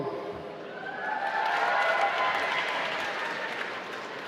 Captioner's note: applause